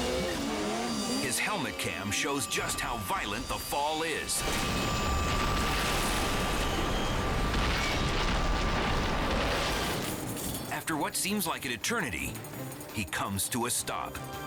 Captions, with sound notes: (engine revving) His helmet cam shows just how violent the fall is. (snowmobile crashing) After what seems like an eternity, he comes to a stop.